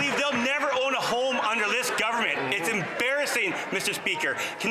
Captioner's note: some Applause